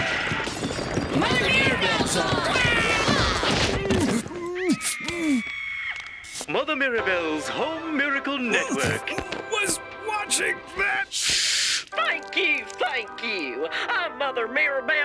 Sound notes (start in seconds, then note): 0.0 gunfire and screaming; 1.2 Duckman yells; 4.6 woman screaming on TV; 8.3 straining